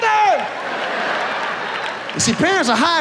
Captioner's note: audience laughs